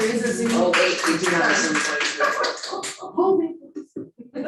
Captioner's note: participants clapping